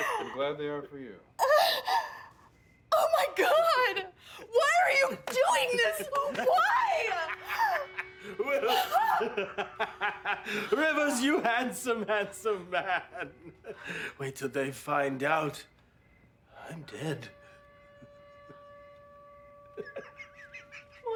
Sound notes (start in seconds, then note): 6.7 laughing; 18.0 laughing